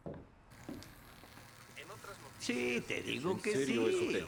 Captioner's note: chatter